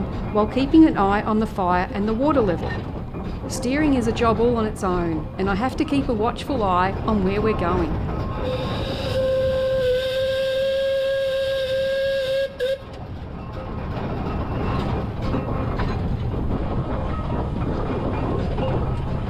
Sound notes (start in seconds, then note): 8.4 whistle; 15.0 metal rattling